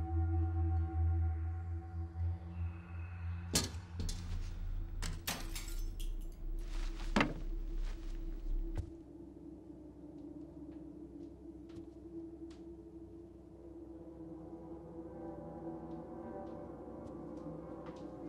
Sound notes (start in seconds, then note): 0.9 voices whispering; 3.6 objects clattering